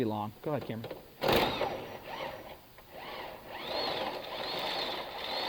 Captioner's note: electric motor whirring